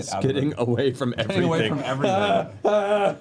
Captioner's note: laughs